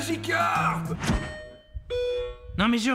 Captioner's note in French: Sonnette